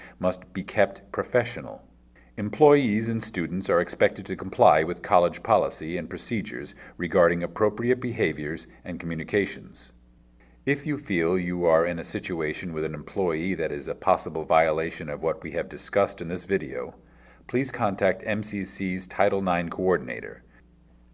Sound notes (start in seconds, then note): none